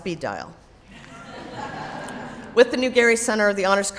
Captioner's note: audience laughs